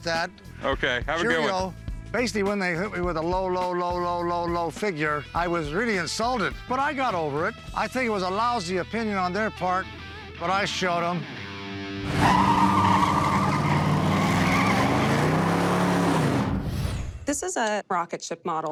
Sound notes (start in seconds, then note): 12.0 tires screeching